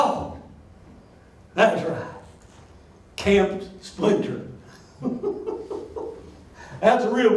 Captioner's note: laughs